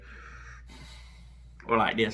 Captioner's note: sigh